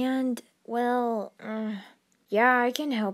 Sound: groans

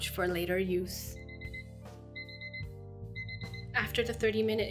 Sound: alarm rings

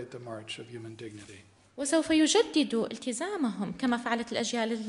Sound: in arabic

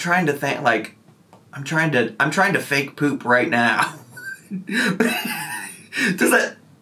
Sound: laughs

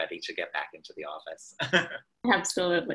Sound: laughs

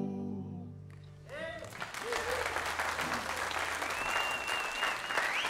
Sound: audience applauds

